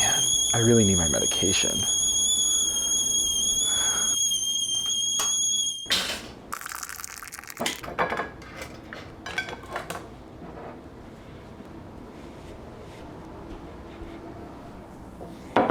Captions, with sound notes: - Man, I really need my medication. (toaster clanking) (coffee pouring)